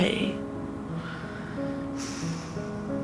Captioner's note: sighs